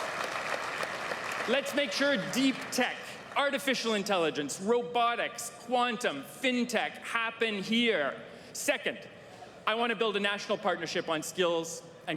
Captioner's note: applause